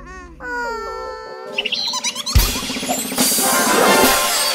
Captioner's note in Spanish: Sonido de pájaro